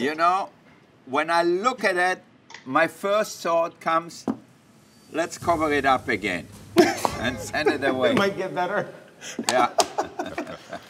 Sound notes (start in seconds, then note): 9.2 laughing